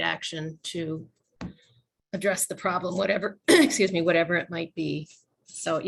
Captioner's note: coughing